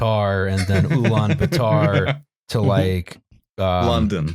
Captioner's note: laughs